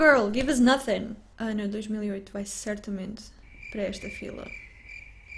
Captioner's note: cricket noises